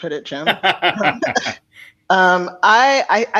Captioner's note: laughter